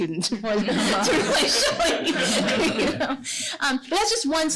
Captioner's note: laughter